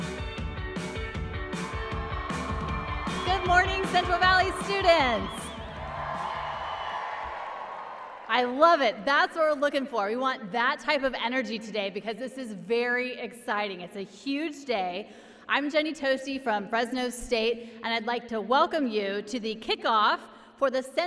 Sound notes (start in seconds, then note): 6.5 applause and cheering